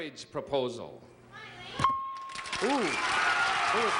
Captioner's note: cheers and applause